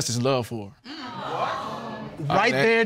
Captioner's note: audience exclaims